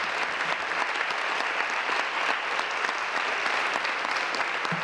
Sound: applause

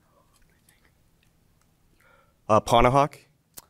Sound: students whispering

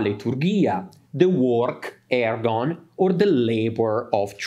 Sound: speaks in Greek

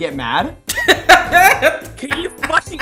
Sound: laughing

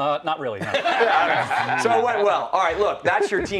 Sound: laughter

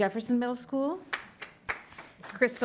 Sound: hand clapping

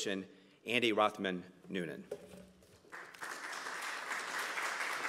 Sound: group clapping

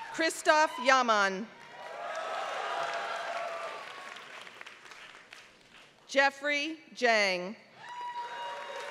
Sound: applause; applause

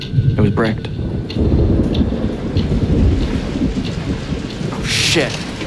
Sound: thunder and pouring rain

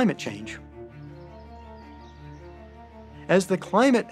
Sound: birds chirping

